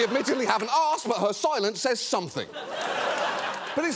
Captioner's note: audience laughing; audience laughing